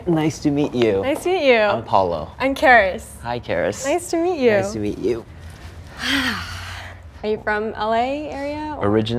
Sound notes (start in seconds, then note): 5.9 exhales sharply